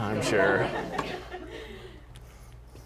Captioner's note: laughter